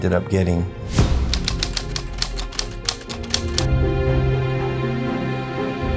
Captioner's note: typewriter clicking